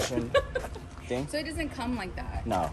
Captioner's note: laughs